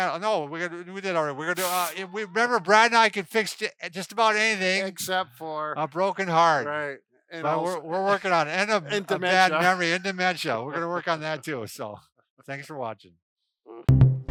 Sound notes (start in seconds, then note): 1.6 laughs; 8.6 laughs